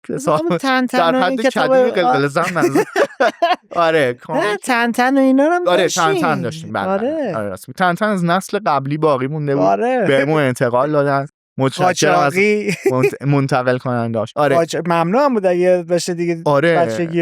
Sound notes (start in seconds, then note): 0.9 laughs; 12.6 laughs